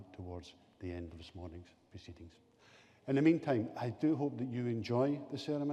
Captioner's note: none